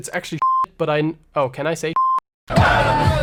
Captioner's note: beep; beep; high energy house music